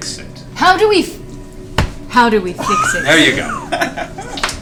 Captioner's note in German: senkt Stimme